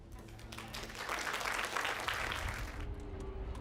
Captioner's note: applause